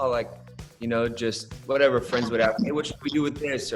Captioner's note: audio breaks